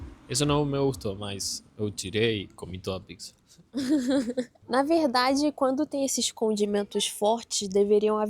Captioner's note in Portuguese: risadas